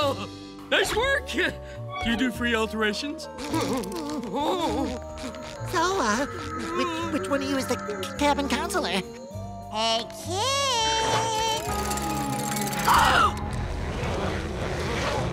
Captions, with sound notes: Nice work. You do free alterations? [groaning] So, uh, which one of you is the c-cabin counselor? Hey, Kid. [gasping]